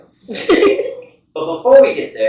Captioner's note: giggle